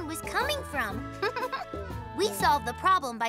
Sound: Hogi giggles

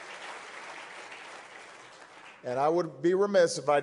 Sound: applause

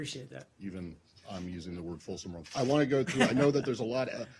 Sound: laughing

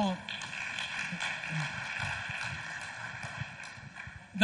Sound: audience applauds

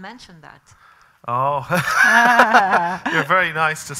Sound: laughing

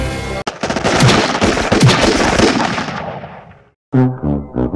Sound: heroic music; gunshots

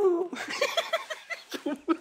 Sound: laughing

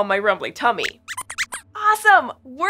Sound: Squeaks squeaks in excited agreement

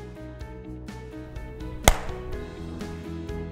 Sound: clap

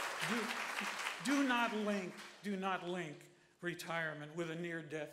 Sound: applause

